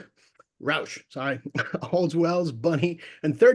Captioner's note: laughs